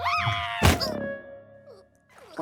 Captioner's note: shrieks; thud